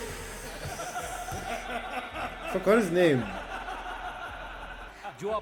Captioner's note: all laughs